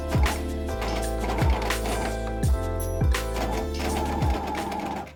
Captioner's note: sewing machine whirring